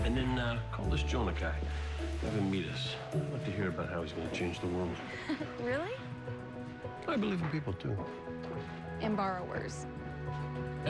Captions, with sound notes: AND THEN, UH, CALL THIS JONAH GUY, HAVE HIM MEET US. I'D LIKE TO HEAR ABOUT HOW HE'S GONNA CHANGE THE WORLD. (chuckles) REALLY? I BELIEVE IN PEOPLE, TOO. AND BORROWERS.